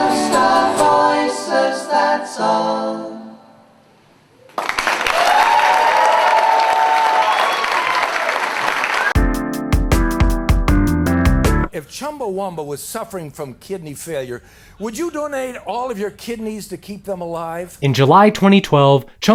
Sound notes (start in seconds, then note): 4.5 crowd cheering; 9.2 upbeat music